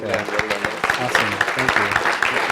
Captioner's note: applause